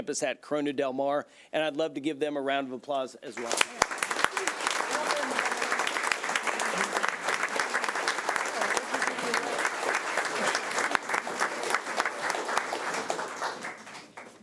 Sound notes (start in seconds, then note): 3.7 audience applauding